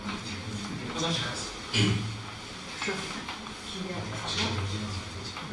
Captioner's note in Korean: 목을 가다듬음